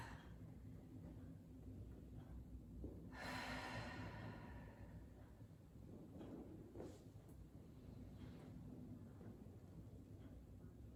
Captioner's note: breathing